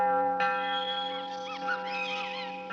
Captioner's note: beIl Continues